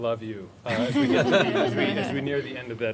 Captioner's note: laughter